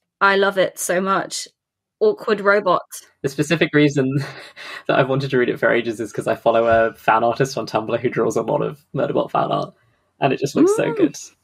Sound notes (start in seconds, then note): 3.6 laughs